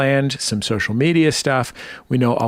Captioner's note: none